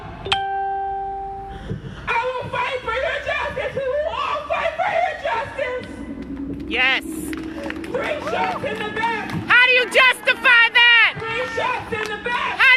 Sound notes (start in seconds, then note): 7.2 audience claps and exclaims